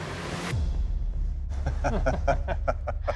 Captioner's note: laughing